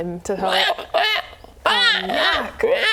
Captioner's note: froggo screams